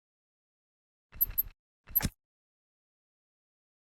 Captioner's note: screwdriver sound